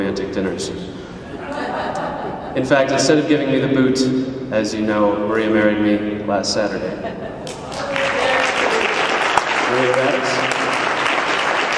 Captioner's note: clapping